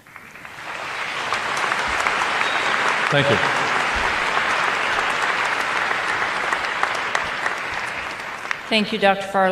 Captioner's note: applause